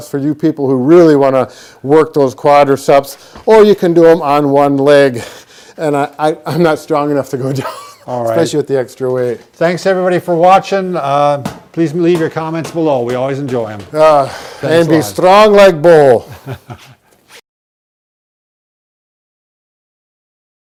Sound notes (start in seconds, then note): 16.2 laughs